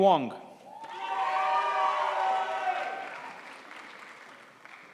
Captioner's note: crowd applauds